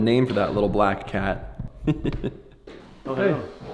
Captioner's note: laughs